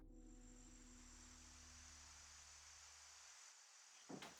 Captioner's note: insects buzzing